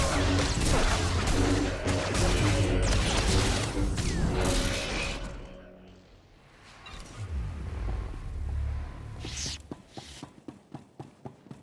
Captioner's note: gunfire